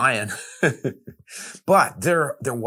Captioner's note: chuckles